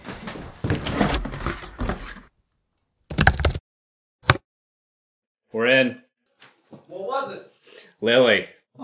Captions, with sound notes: [OPENS CARDBOARD BOX] [TYPING] We're in! - What was it? - "Lily".